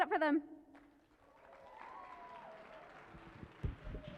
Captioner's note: applause